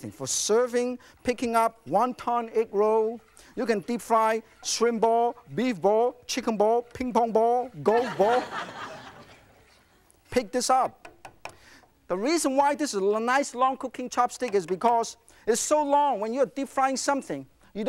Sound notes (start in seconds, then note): 7.9 laughing